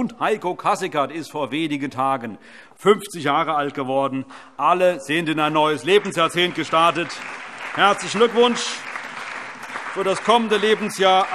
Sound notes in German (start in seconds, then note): 7.2 Allgemeiner Beifall